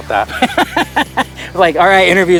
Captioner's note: laughs